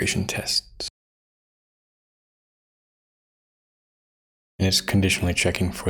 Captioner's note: blank Audio